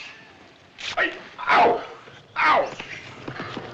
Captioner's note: gasps